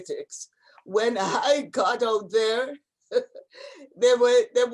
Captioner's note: laughs